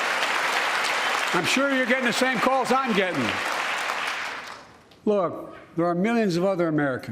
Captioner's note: applause